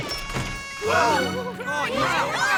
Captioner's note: tootttt